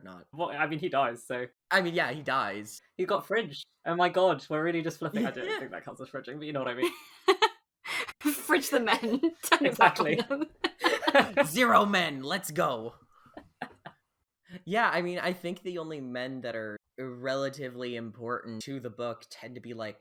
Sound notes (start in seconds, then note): 8.8 laughing; 8.8 laughs